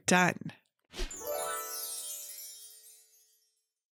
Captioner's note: gentle chiming